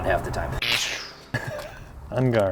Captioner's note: electrical buzz